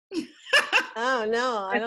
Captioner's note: laughs